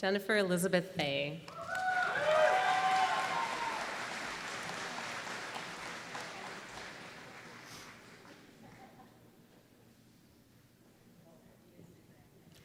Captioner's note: applause